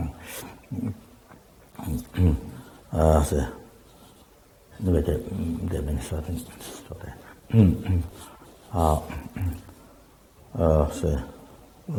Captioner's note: tibetan